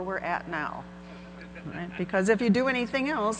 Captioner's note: audience laughing